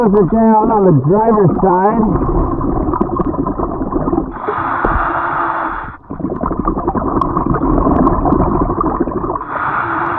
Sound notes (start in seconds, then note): 2.8 water bubbling; 4.4 air wheezing; 6.8 water bubbling